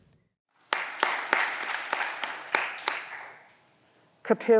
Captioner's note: audience applause